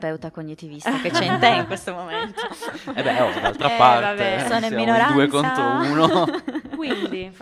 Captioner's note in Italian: risate